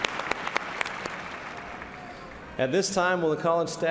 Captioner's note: applause